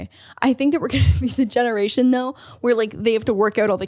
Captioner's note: laughs